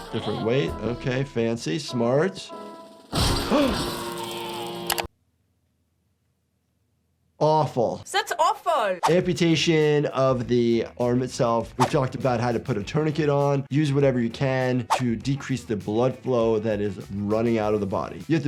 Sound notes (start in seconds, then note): 3.3 gasps